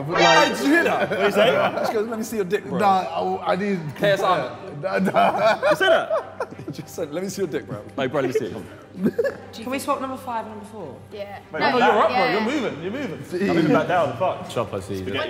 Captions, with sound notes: - Hey, did you hear that?! - What did he say? - He goes, "Let me see your dick bro." - No, I didn't. (laughs nervously) - Did you say that? - He just said, "Let me see your dick bro." - Like, "Bro let me see it." - Can we swap number five and number four? - Your up bro, you're moving! - I'm moving back down, fuck.